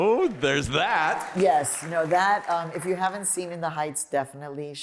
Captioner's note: applause